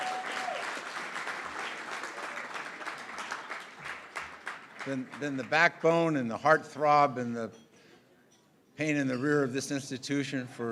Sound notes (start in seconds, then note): 0.0 applause & Cheering